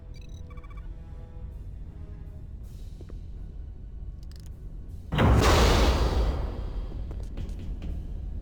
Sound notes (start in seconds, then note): 0.0 beeping; 0.5 loud explosion